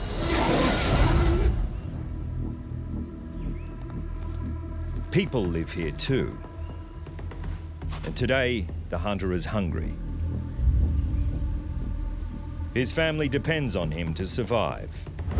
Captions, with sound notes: [marsupial roaring] [people footsteps] People live here too. And today the hunter is hungry. His family depends on him to survive.